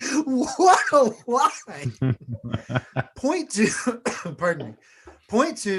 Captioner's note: coughs